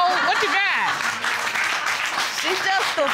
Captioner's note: audience applauds